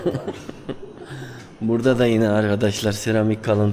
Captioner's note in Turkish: kahkaha